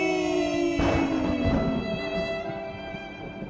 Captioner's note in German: GruseligerDonner und Blitz für einen dramatischen Effekt